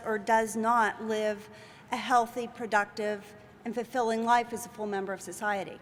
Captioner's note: none